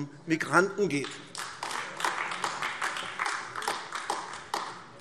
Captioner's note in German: Beifall AfD